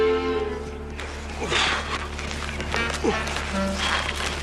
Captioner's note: straining